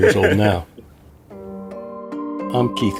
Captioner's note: chuckling